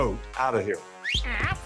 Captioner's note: whistles